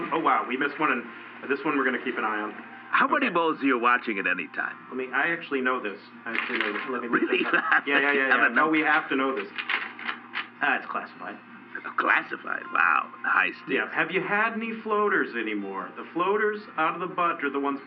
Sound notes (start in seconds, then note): 7.0 laughing; 9.3 shuffling through papers